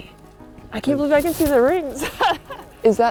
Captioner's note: laughs